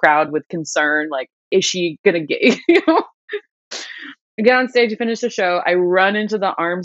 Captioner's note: laughter